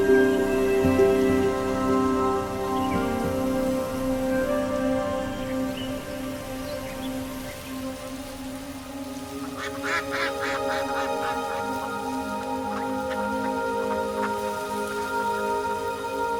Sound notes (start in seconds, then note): 9.4 ducks quacking; 14.1 light music